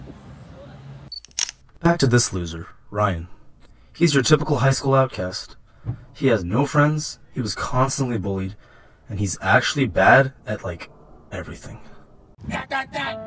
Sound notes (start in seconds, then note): 1.1 camera flash sound effect